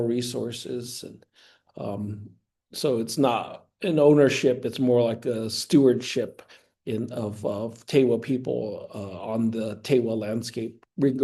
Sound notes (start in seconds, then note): none